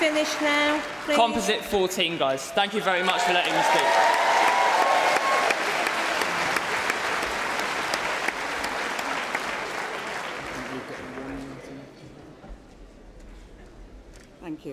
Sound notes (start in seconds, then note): 11.1 applause